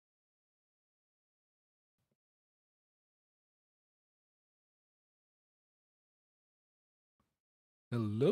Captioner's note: silence